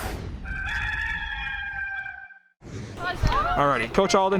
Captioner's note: cock crows